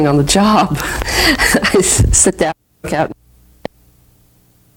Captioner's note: laughing